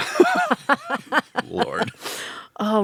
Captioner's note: laughing